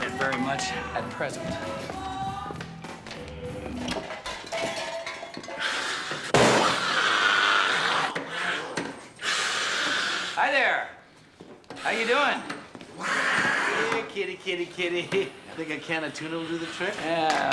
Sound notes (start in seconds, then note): 3.7 clattering and hissing; 6.6 growling